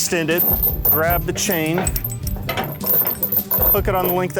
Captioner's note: chain jingles